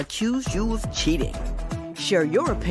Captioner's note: none